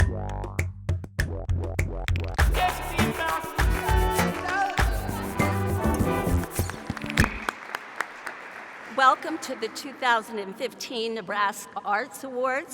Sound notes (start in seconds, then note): 7.5 applause